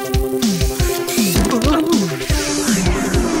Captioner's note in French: Gémissement